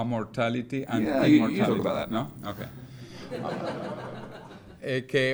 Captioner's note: audience laughs